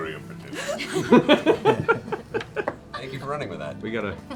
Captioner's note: laughter